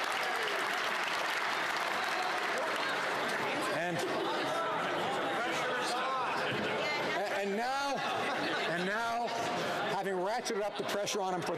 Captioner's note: applause